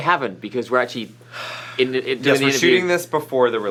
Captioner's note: stutters